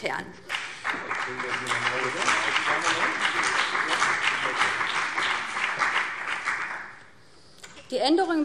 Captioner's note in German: Beifall BÜNDNIS 90/DIE GRÜNEN und CDU